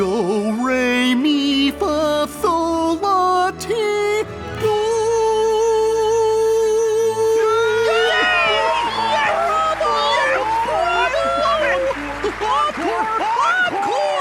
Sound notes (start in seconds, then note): 7.3 cheering